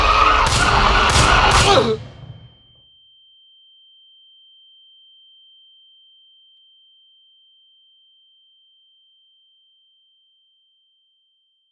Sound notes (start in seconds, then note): 0.0 police sirens whaling; 0.1 guns shooting; 2.7 ears ringing